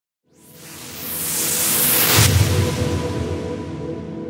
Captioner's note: whooshing